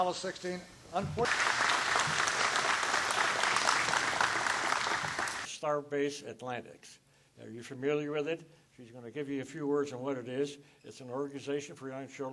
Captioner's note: applause